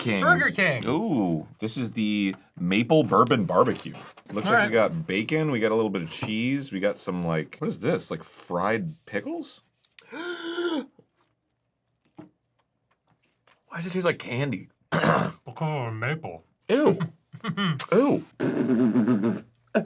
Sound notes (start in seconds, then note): 10.0 inhales; 14.9 clears throat; 17.4 spits it out